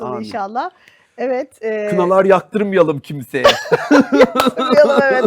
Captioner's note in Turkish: kahkaha